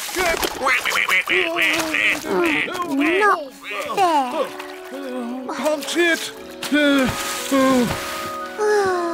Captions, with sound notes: - Abandon ship! - (quacks) (sighs) Not fair. Can't see it. Oh.